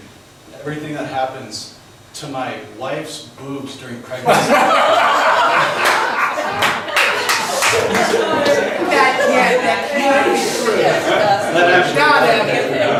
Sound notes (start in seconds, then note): 5.6 laughs; 8.8 overlapping chatter